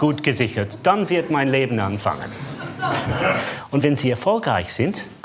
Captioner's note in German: Lachen